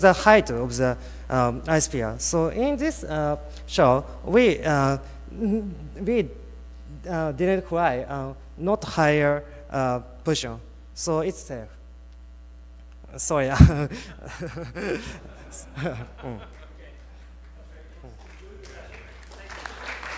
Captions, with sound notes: to the height of the iSphere. So in this show we didn't fly not higher person. So it's safe. Sorry. (laughs)